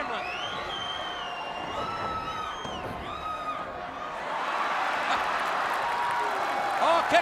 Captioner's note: crowd cheering